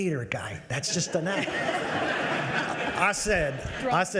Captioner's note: audience laughs